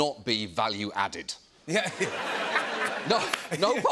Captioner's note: laughter